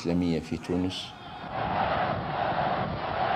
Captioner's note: military crowd